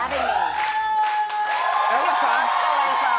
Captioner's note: audience applauds; audience cheers